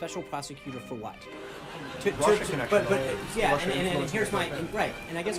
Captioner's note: raucous laugh track